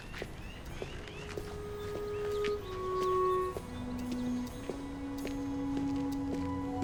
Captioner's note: birds chirping; light music